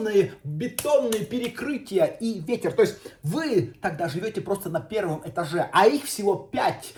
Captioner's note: hands clapping